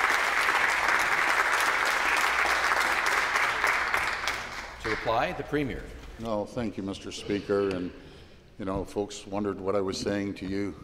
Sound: some Applause

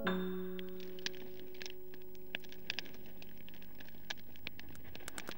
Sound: crackling open street fire in background

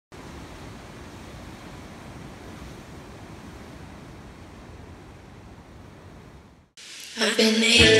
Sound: ocean waves

